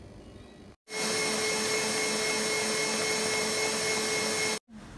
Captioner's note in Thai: เสียงเครื่องตีกำลังทำงาน